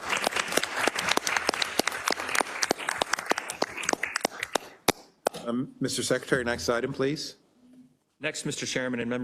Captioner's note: applause